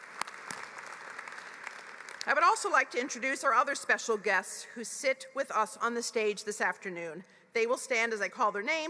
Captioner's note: applause